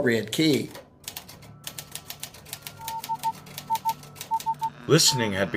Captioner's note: keyboard typing, morse code spelling "listening on the line"